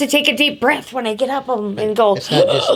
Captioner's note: gasps